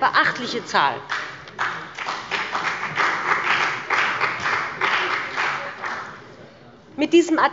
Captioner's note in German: Beifall bei dem BÜNDNIS 90/DIE GRÜNEN und der CDU